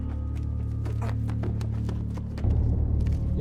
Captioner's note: footsteps pounding; tense music